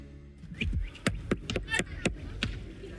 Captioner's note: knocking